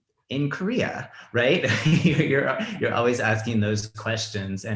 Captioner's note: laughs